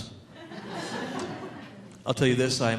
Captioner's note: audience laughing